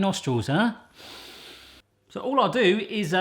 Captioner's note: inhaling deeply